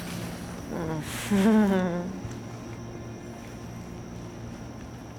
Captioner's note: nervous laughing